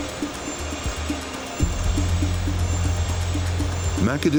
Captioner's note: engines roaring